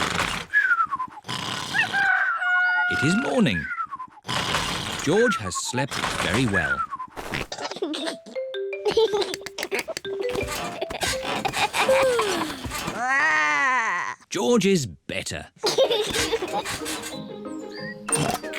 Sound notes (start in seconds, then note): 1.8 cockerel crows; 8.8 giggles; 12.5 growls; 12.5 yawns; 15.6 giggles